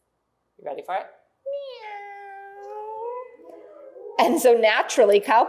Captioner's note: cat sound